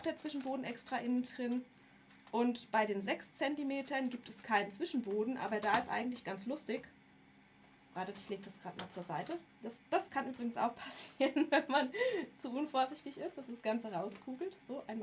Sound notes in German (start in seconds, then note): 11.0 gelächter